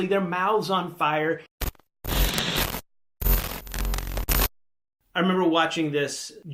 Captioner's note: electricity zapping